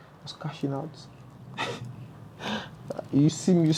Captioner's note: laughs